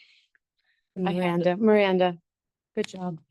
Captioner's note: board member speaks faintly